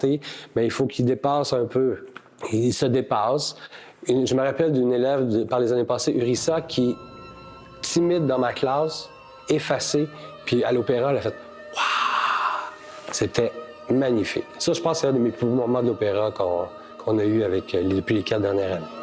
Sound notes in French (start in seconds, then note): 11.7 soupir